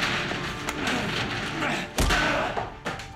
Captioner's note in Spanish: Sonidos de lucha